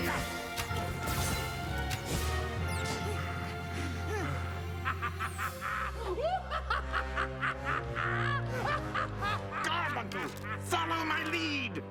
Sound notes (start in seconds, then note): 4.4 all panting; 9.0 evil laughter